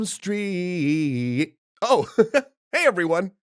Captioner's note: chuckle